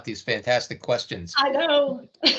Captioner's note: chuckling